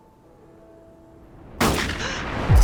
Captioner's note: gasps; gun fires